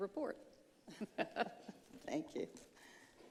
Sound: chuckling

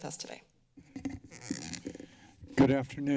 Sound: microphone squeaks

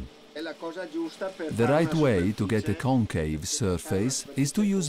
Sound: speech is translated

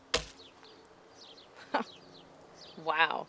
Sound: chuckles

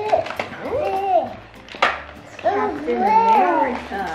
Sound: laughs; mumbles

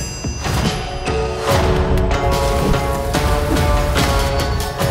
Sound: ding!; footsteps, rain pouring

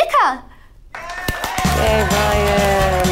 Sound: cheers

